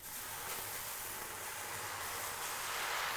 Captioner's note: sizzling